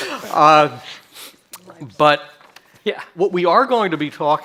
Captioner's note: chuckles